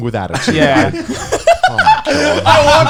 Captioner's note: all laughing